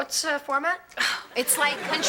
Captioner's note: audience laughing